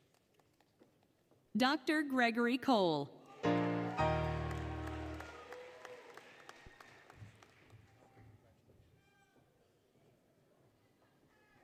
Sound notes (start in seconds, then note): 3.4 applause, Cheering, Music; 5.6 applause, Cheering